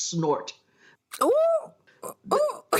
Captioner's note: laughs and claps